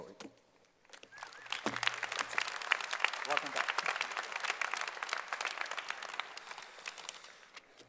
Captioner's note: applause